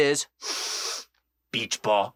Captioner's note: sniffing noise